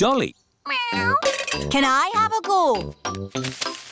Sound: meows

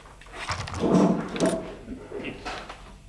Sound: distant working noises

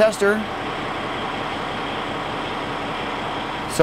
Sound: sfx: engine running

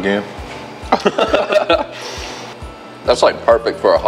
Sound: laughs

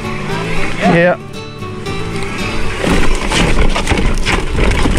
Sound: bike sounds

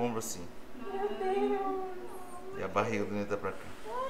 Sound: awww

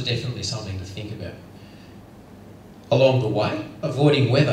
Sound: none

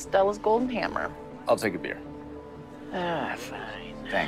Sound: sighs

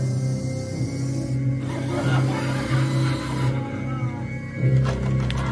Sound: evil laughter

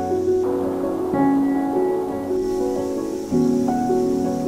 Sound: calm music continues; wind blowing

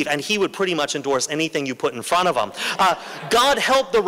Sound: laughter

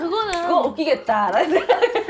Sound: laughing

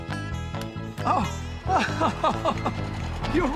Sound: bob laughs

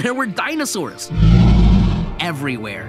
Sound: dinosaur roars

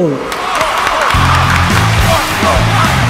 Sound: all cheering, clapping

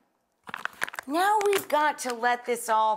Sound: package crinkles

